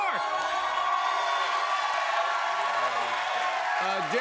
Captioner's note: cheers and applause